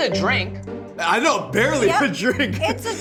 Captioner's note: laughs